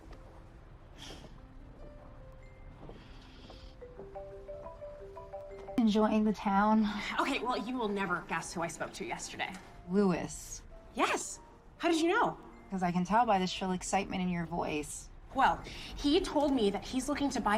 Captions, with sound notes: (phone ringing) Okay, well, you will never guess who I spoke to yesterday. Louis. Yes. How did you know? Because I can n tell by the shrl excitement in your voice. Well, he told me that he's looking to buy a boat on